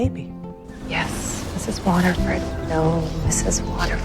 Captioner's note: voiceover